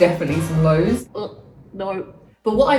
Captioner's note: grunts